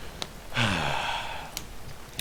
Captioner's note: sigh